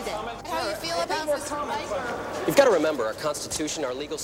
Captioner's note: all chattering